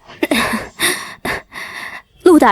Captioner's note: cough, cough